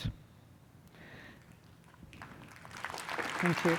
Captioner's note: applause